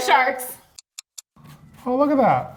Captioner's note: clock ticking